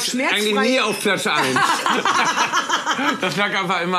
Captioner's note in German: Lachen